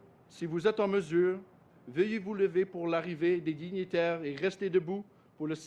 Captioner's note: speaks French